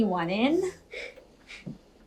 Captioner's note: loud Sniff